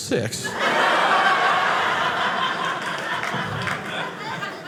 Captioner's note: audience laughing